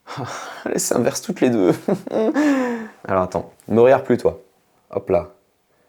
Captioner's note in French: rires